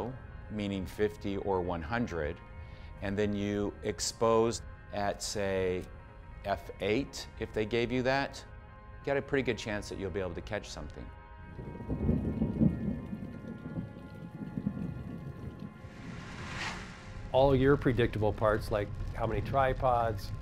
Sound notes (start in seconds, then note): 11.5 thunder rumbling